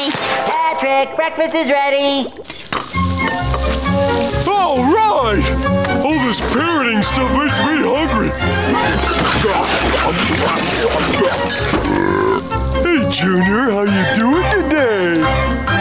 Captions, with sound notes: Patrick, breakfast is ready! Alright! All this parenting stuff makes me hungry. [burping] Hey, Junior, how are you doing today?